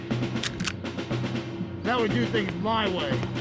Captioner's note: gun cocking